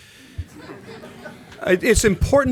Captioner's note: laughter